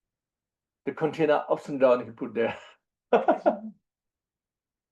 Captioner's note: laughs